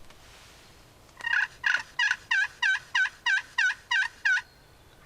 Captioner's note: turkey gobbling